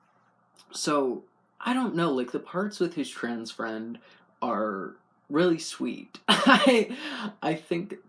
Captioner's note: laugh